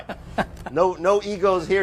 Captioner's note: laughing